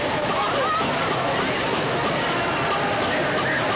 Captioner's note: uproar reaches great intensity